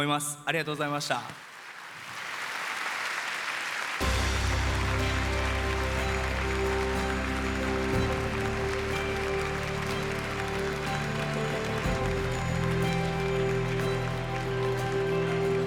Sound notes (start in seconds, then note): 1.1 applause